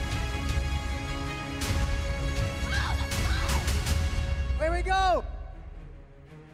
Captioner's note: crowd cheering